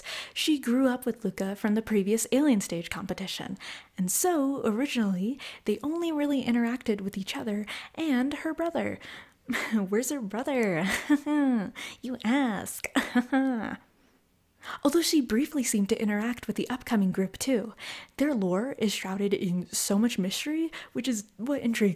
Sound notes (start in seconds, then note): 12.9 haha